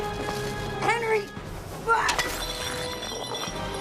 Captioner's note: grunts